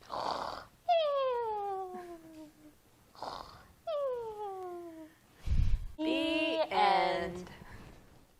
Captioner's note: snoring